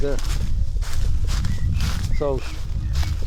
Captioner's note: rustling leaves